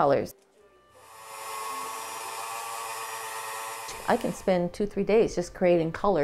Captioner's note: whirring